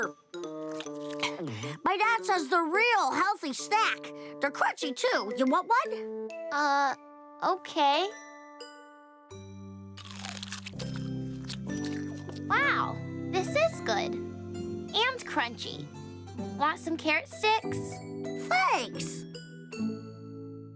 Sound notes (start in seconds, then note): 11.8 crunching